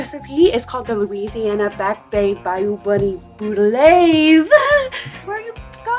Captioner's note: laughs